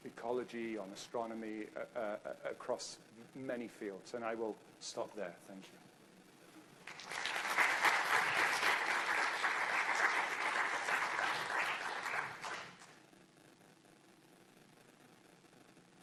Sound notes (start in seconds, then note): 6.8 audience applauding